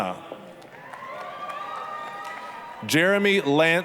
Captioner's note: applause, cheering